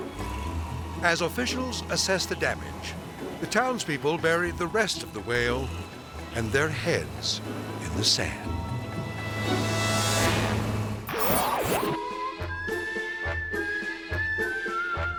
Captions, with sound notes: As officials assess the damage, the townspeople bury the rest of the whale and their heads in the sand. (dramatic music) (logo whooshes) (circus music)